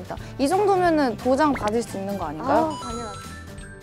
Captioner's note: asking cautiously